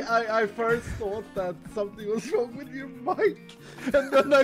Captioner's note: laughing